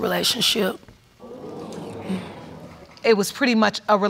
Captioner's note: audience exclaiming